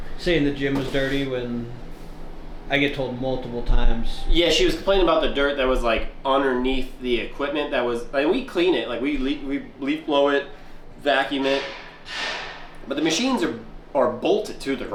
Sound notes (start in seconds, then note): none